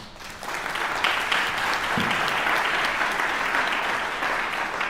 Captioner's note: audience applauding